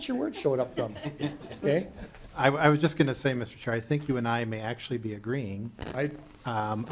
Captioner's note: laughing